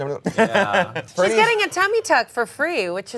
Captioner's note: laughs